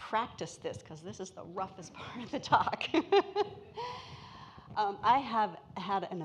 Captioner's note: laughs